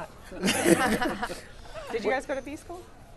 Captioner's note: all laughing